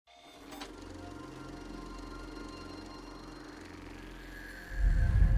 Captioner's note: film projector whirring; soft cinematic music